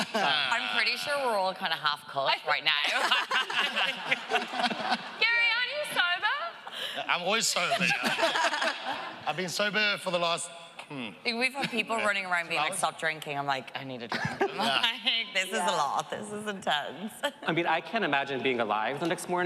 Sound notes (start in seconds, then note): 2.9 laughing